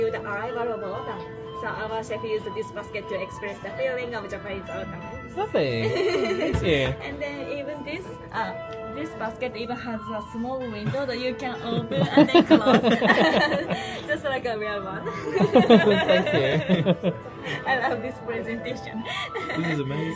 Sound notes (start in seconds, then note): 15.0 laughs